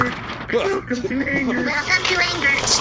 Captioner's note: ZapZop sputtering